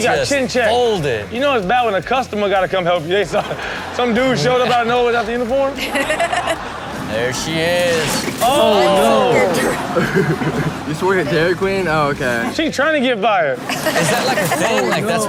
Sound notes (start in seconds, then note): 5.9 Chanel and audience laughing